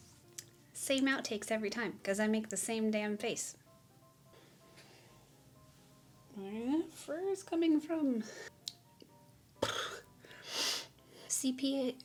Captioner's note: raspberry